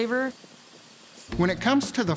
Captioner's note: sizzling